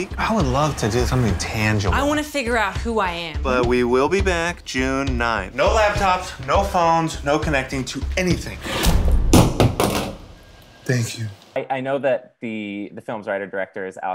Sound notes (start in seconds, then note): 8.9 clamoring